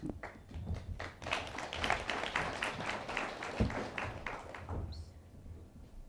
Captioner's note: attendees applauding